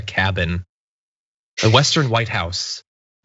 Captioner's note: laugh